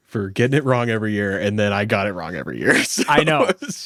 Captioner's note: laughs